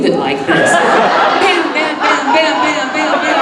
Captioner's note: audience laughing